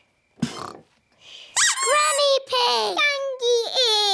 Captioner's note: both snore; duck squeaks